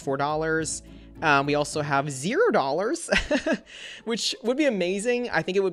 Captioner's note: laughs